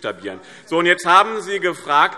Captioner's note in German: Zurufe DIE LINKE